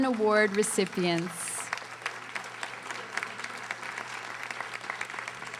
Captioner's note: audience applauding